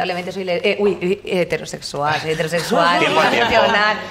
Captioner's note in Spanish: todos ríen